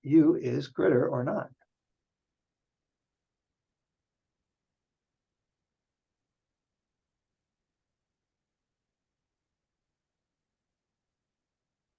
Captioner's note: silence